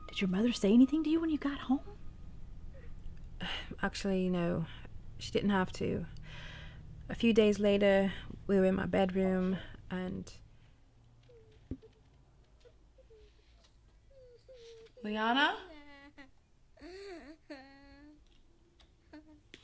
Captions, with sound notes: - Did your mother say anything to you when you got home? - Actually, no, she didn't have to. A few days later we were in my bedroom and... - Leanna? (muffled sobs)